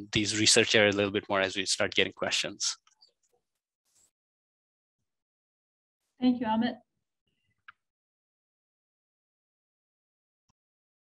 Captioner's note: silence